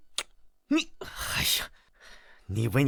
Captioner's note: sigh